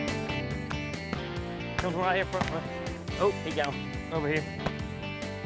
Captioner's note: multiple gunshots